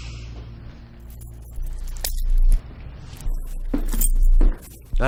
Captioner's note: keys jingling